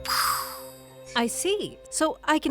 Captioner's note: makes explosion sound